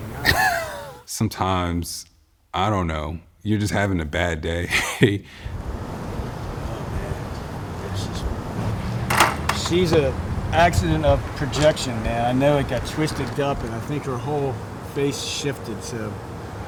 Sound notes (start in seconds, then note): 0.1 laughs; 5.1 laughs; 8.3 motor noise